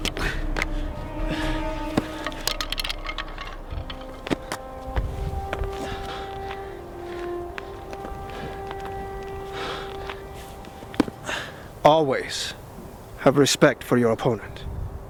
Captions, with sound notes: (groans) (somber music) (panting) - Always have respect for your opponent.